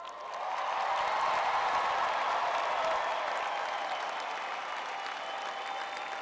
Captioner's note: audience cheering